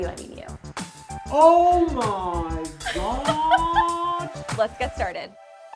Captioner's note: laughs